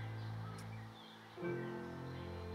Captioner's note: Kisses